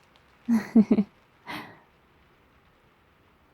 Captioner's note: laughs